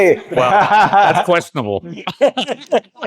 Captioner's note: laughter